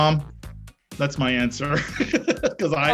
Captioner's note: laughs